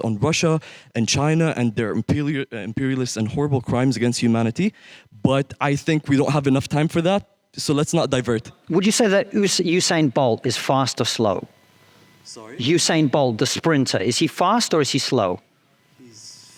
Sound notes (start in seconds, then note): none